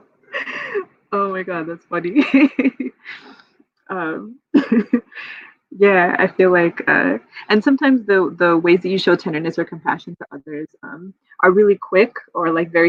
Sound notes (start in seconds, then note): 0.3 laughs; 4.4 laughs